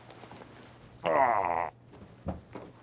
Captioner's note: groaning